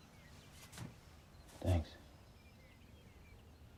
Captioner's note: none